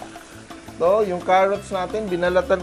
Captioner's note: sizzle